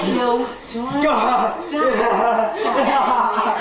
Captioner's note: laughing